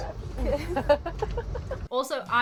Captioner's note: laughing